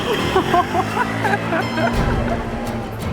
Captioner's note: laughs